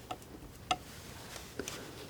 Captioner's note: tapping